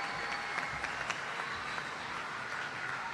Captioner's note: applause